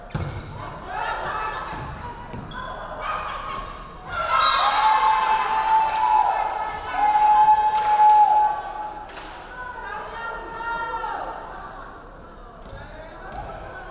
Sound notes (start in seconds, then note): 4.1 crowd cheering; 4.5 referee whistling